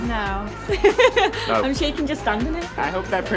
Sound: laughing

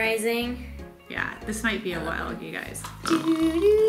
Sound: snores; imitates Jeopardy music

